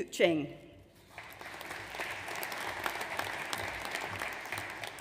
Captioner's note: audience applauds